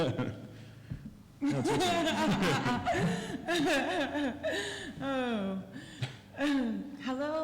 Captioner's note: laughter